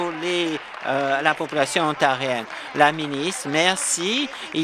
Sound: applause

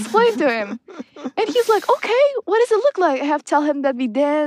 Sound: laughs

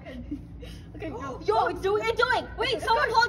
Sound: incoherent panicking

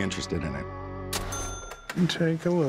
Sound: cash register ring

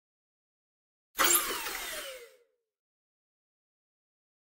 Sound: sound of robot

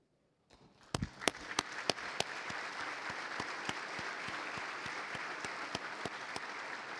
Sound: applause

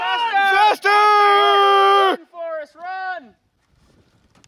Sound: all shouting

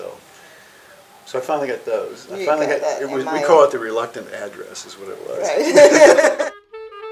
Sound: laughs

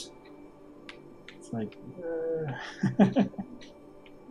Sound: chuckles

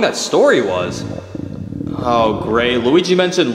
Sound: stomach growling

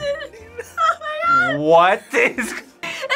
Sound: cries

